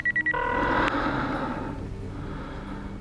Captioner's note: line ringing